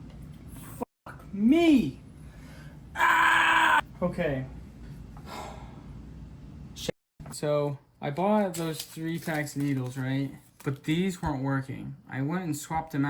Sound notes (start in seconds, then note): 2.9 screaming; 5.2 sighing